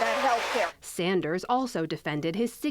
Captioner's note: cheering and applause